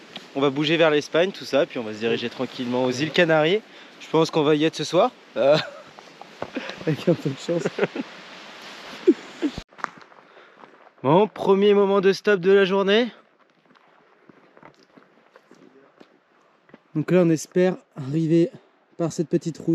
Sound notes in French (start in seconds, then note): 7.7 ironie